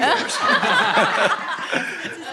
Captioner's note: laughter